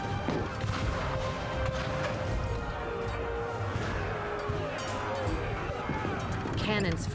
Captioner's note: cannon blasts, gunfire